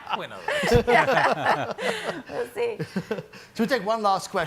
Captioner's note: people laugh